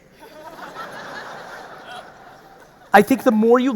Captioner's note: audience laughing